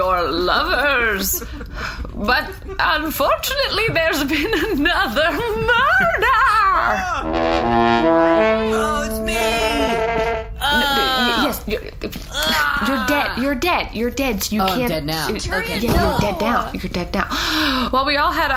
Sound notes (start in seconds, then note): 7.2 horn honks; 11.0 dying noises